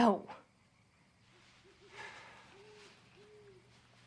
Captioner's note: sighs